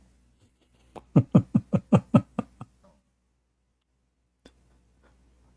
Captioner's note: Ketawa